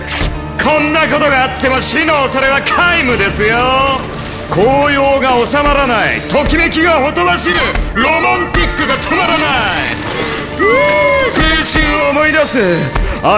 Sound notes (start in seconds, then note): 0.2 fabric tearing; 6.8 robotic voice